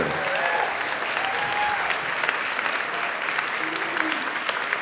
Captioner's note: audience applauding